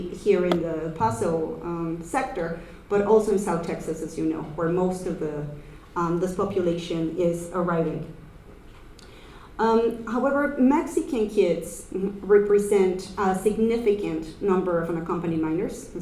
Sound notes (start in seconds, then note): none